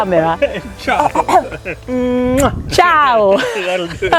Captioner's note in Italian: risate